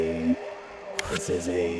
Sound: click

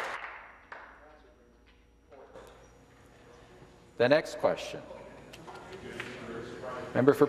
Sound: some Applause

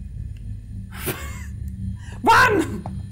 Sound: laughs

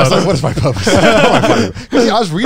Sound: everyone laughs

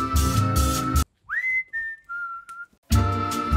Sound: upbeat music; whistling; upbeat music

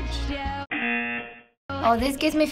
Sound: singing along; buzzer

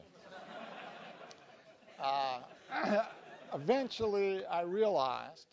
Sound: laugh

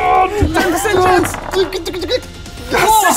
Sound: scared noises

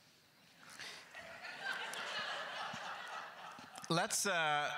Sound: crowd laughter

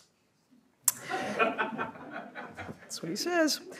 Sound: audience laughs

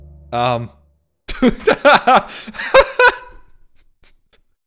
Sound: hearty laughing

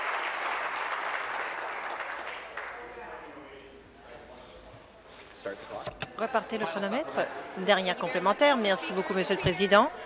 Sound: applause

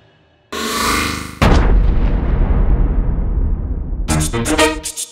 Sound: boom!

